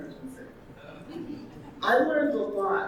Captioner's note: audience laughing